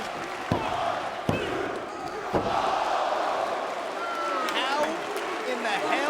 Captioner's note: hand pounding